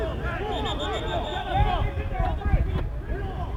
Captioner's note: whistle